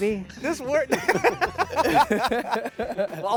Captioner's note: laughing